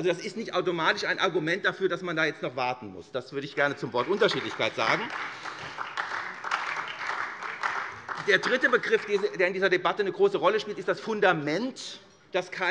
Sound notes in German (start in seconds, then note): 5.9 Beifall SPD und vereinzelt Freie Demokraten